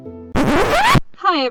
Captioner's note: record scratch